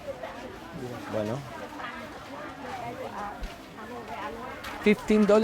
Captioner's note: indistinct chatter